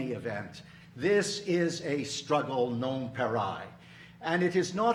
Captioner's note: speaking in foreign language